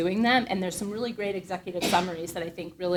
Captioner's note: audience member coughs